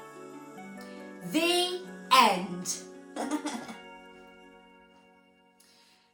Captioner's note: laughing